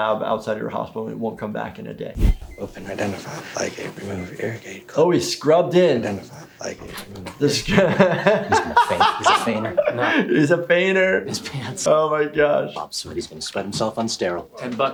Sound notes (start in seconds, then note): 2.7 surgeon resident mumbling to himself; 7.7 laughing